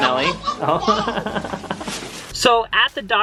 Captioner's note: laughing